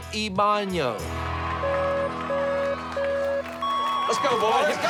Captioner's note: beeping